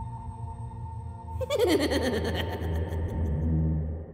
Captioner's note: scary laughing